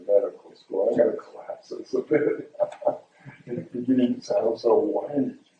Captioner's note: laughs